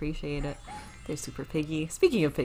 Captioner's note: dog barks